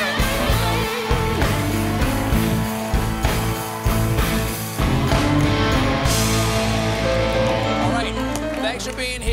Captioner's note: applause